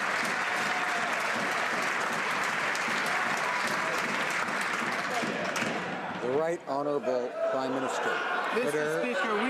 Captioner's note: some Applause